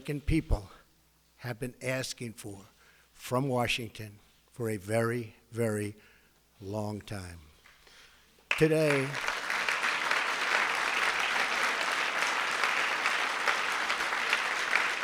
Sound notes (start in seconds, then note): 10.1 applause